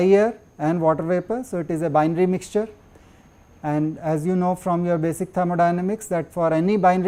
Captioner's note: air conditioning